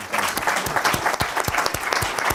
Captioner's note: applause